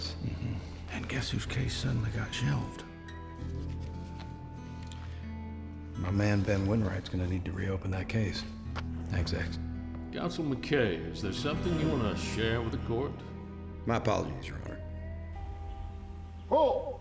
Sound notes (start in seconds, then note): 8.6 tapping